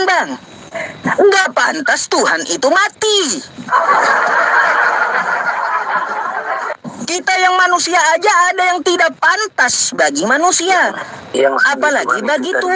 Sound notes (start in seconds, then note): 3.6 laughs